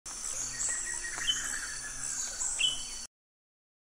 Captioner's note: birds chirping